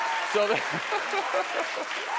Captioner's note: audience laughing